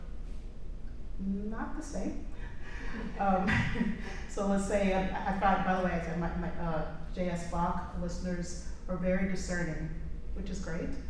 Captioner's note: laughter